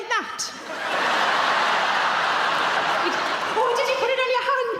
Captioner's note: audience laughing